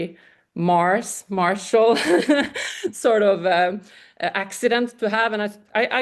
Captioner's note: laughs